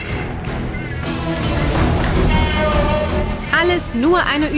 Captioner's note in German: Sprechchöre, Zischen